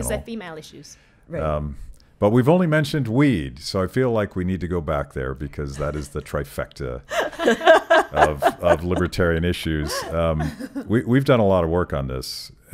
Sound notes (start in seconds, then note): 7.1 laughing